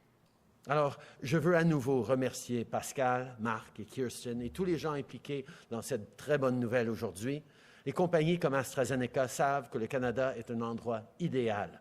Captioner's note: speaking French